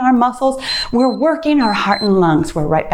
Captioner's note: timer beeps